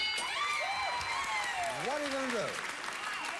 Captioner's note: audience applauding